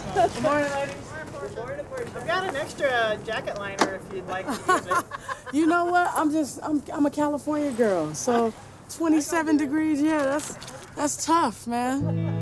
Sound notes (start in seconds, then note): 4.4 laughs